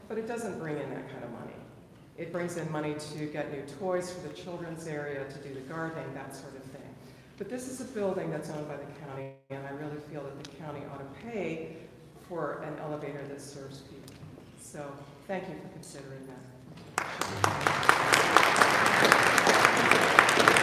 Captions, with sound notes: but it doesn't bring in that kind of money. It brings in money to get new toys for the children's area, to do the gardening, that sort of thing. But this is a building that's owned by county and I really feel that the county out of pay for an elevator that serves the community. So thank you for considering that. (audience applauding)